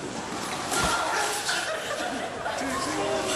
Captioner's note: laughter